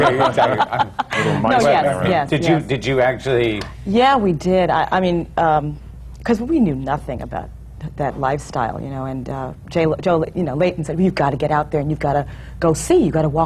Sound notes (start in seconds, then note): 0.0 laughs